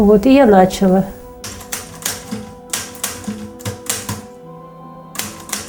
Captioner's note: typewriting